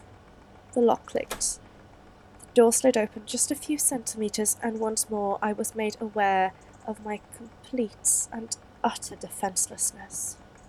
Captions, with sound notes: The lock clicked. [FX: CLICK] The door slid open just a few centimetres, and once more I was aware of my complete and utter defencelessness.